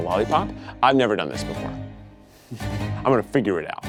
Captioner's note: chuckling